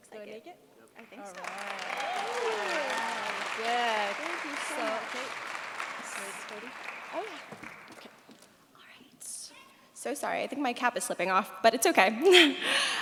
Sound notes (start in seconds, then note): 1.1 cheers, applause